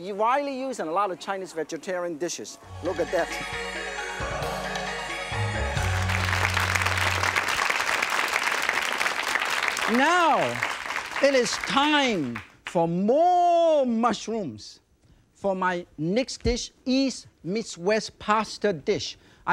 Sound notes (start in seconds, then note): 2.6 chinese music; 5.5 audience claps